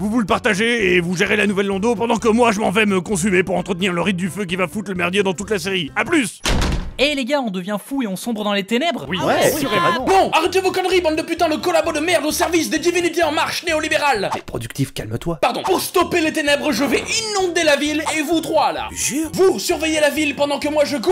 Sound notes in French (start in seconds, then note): 9.1 acquiescement général